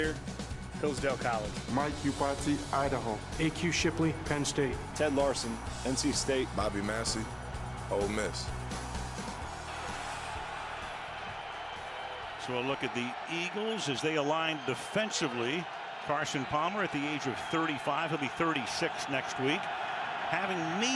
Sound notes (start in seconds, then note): 9.8 cheers